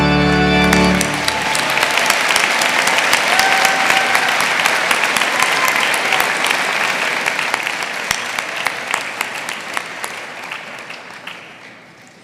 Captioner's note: applause